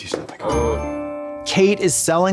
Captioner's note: bright chime